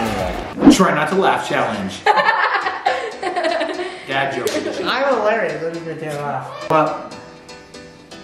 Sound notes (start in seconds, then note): 2.1 laughs